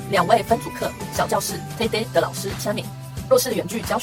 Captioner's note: in french